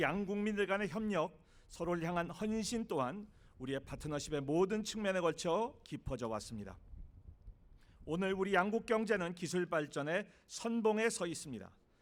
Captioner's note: speaking non-english